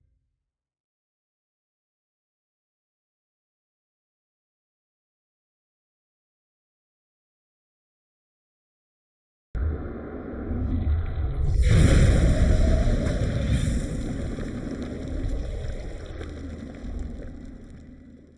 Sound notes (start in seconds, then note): 9.7 air whooshing; 10.2 wind blowing; 10.6 air squishing; 11.8 dramatic music